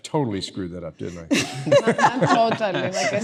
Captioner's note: laughing